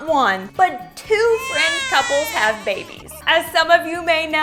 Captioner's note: baby crying